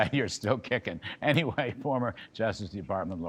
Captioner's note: laughter